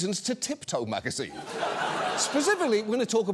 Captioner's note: audience laughs